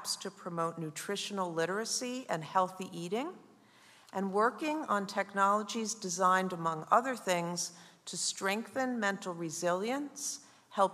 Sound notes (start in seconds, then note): none